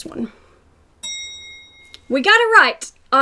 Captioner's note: bell dings